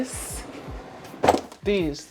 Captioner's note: drawer whooshing